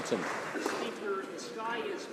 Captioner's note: some Applause